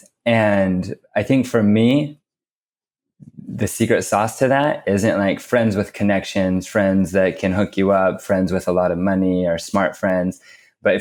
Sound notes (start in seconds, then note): none